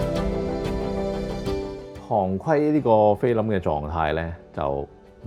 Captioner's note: Cantonese